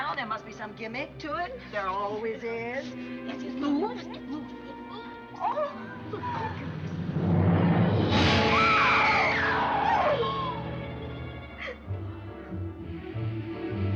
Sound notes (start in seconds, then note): 8.4 screaming